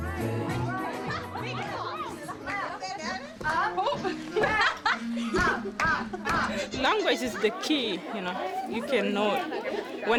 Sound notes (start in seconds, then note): 0.0 upbeat Reggae music; 5.5 people laughing